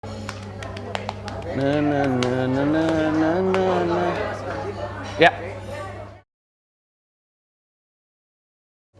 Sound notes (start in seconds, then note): 1.5 humming